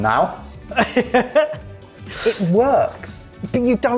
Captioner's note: laughing